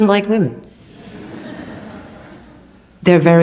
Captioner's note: audience laughs